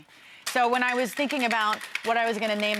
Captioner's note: shaker rattles